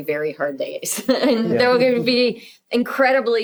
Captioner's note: laughing